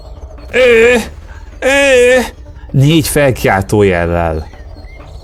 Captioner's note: two sexually suggestive grunts